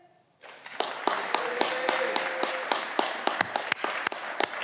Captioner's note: audience cheering